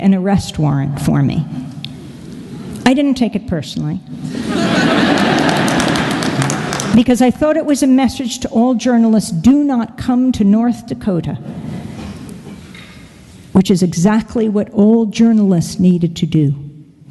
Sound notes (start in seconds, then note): 4.3 laugther and Applause